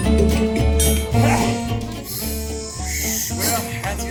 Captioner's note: sneezes